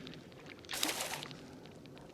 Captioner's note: splash